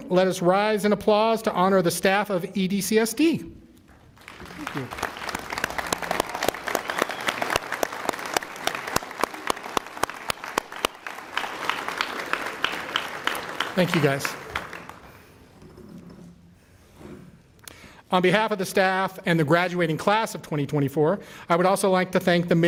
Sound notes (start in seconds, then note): 8.2 applause